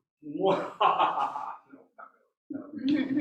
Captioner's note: evil laugh